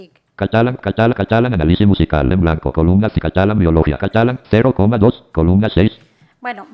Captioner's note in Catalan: veu del lector de pantalla